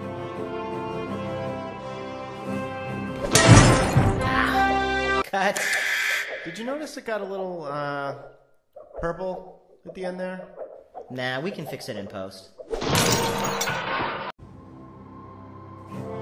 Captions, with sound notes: (Anvil Drops) AH Cut. Did you know is think a while um Purple in there NAH. We Can fix it then it does (CRASH)